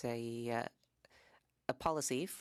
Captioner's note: speaking French